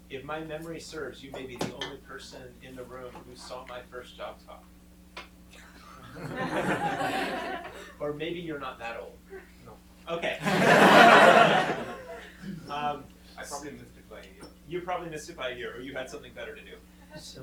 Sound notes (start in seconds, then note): 5.6 chuckling; 10.3 chuckling